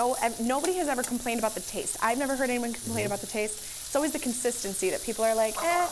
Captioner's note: food sizzling